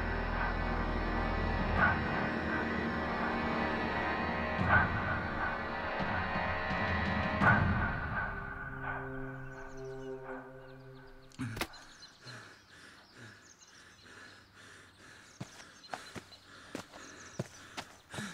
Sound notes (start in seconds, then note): 12.2 panting; 16.4 birds chittering